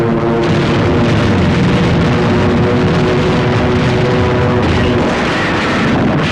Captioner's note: explosions